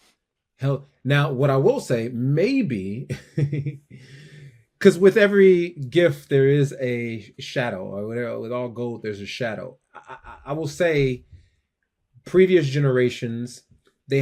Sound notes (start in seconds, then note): 2.9 chuckles